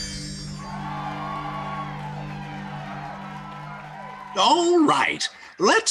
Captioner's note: ethereal music; audience cheering